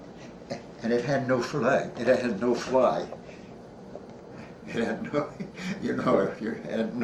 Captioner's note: laughs